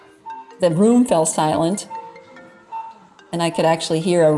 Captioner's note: phone ringing